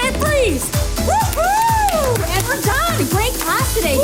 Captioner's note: cheering and clapping